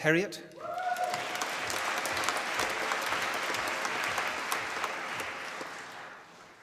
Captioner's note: applause